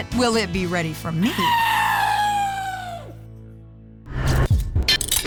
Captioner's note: imitates elephant trumpeting